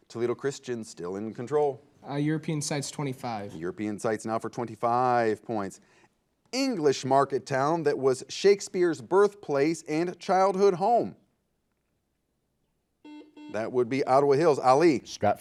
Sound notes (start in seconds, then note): 13.0 buzzer